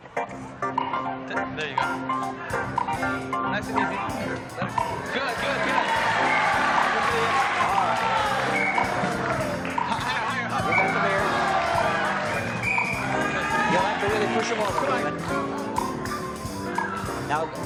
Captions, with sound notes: [upbeat music] - There you go. Nice and easy. Let it. Good, good, good. [applause] - You'll have to really push them over. - Come on.